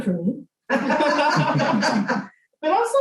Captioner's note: laughter